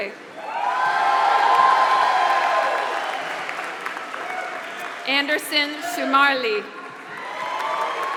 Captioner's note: applause; applause